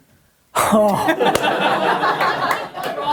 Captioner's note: laughs